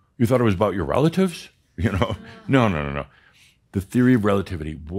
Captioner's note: chuckles